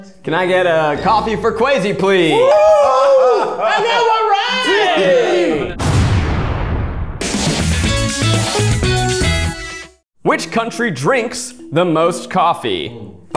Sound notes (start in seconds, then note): 2.2 cheering; 2.3 screaming; 3.4 laughs; 7.9 bright guitar transition